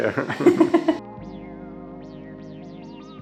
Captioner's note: laughs; lo-fi music